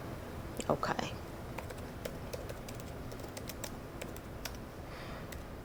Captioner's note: typing